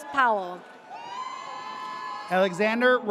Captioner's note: audience cheers